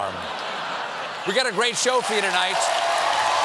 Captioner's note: laughter